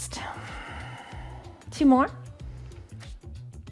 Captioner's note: inhales; exhales